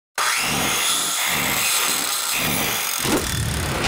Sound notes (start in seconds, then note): 0.2 whirring; 3.0 whoosh